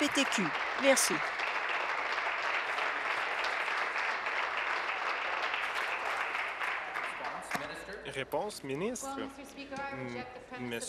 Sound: applause

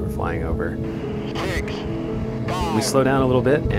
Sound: man on Radio

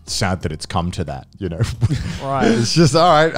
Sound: chuckles

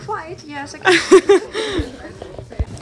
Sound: host laughs

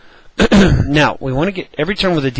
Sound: cough

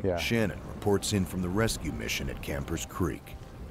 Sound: voiceover

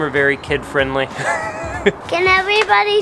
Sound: laughs

